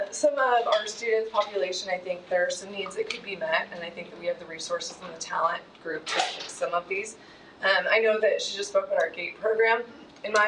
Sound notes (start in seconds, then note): 6.3 shutter clicking